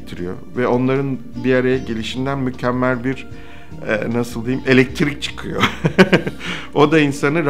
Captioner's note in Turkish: Gülme